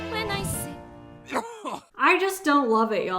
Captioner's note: man coughing